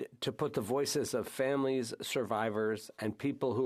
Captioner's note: speaking French